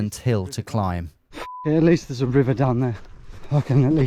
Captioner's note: beep